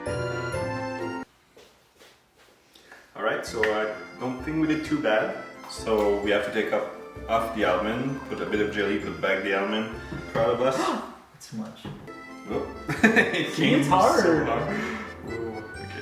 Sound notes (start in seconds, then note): 11.2 gasps; 12.0 whimsically romantic music; 12.8 laughs